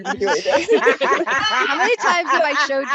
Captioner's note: laughter